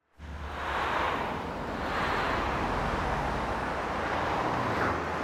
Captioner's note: traffic whooshing